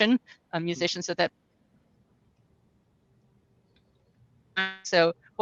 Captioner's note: speaks faintly